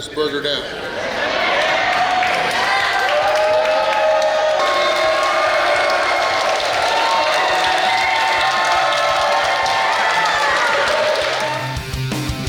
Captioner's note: cheering & Clapping